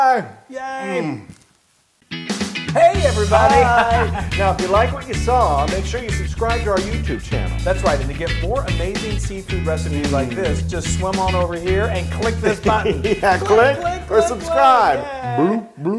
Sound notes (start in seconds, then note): 2.8 laugh; 11.8 laugh